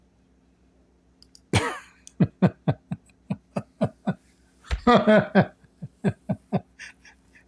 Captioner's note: Ketawa